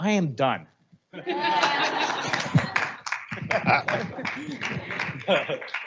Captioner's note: audience laughing and clapping